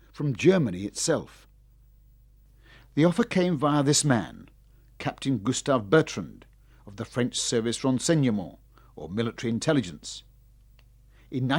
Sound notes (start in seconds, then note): 8.2 speaking foreign language